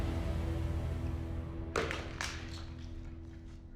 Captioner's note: thud